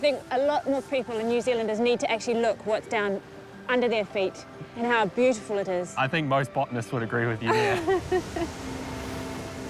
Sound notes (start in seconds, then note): 7.4 laughs